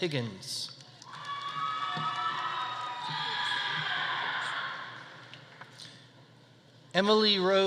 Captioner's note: audience applauding; audience cheering